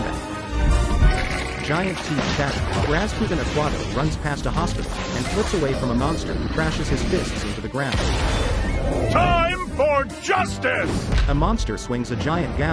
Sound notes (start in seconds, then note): 1.0 teeth chattering